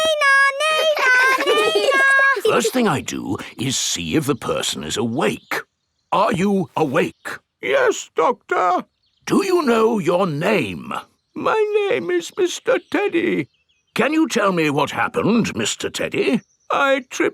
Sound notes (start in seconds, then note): 8.0 in teddy's voice; 9.8 in normal voice; 11.8 in teddy's voice; 14.3 in normal voice; 17.1 in teddy's voice